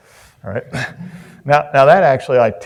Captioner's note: Chris laughs; audience laughs